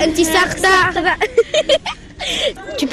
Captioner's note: laughs